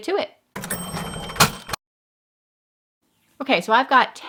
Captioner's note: bell dinging